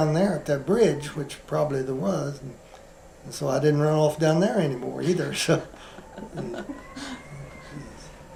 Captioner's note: laughter